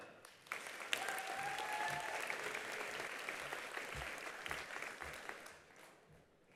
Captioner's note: attendees applauding; attendees cheering